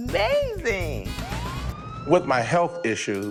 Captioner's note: ambulance sirens